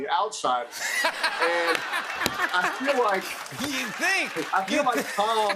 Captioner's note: laughter